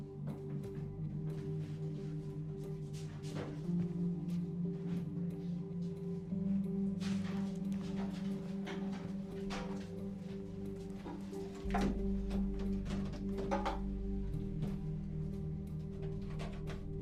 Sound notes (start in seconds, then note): none